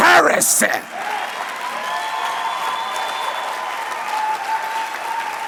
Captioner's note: applause